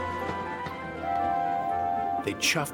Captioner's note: toot toot